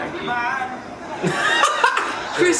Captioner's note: laughs